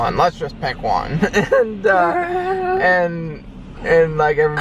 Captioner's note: chuckling